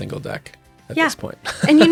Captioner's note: laughing